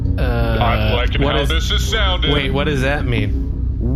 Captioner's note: excited